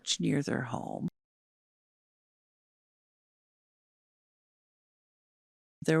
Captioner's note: no audio